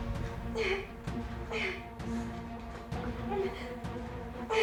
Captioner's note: suspenseful music; Tilly grunting